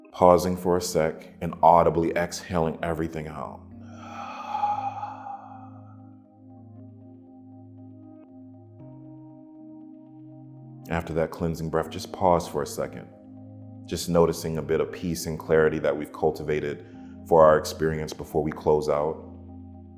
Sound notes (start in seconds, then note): 3.8 slowly exhales; 19.7 tranquil music